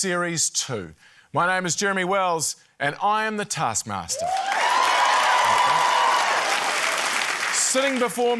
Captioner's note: cheering, applause